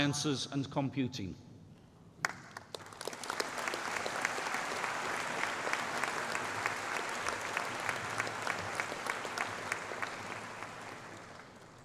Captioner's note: applause